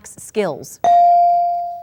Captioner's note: ding